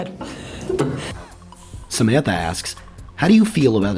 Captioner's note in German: Voice-over